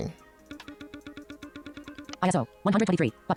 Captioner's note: short pulsating sounds